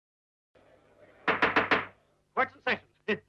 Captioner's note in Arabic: ضربات المطرقة